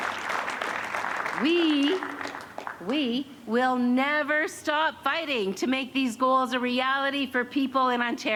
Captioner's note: cheers and applause